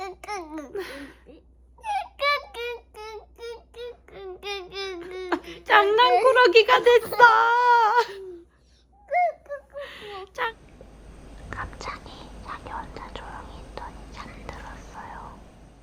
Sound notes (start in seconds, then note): 11.4 whisper